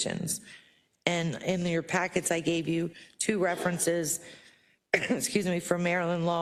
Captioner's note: cough